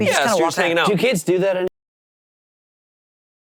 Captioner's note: audio cuts